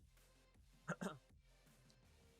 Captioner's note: cough cough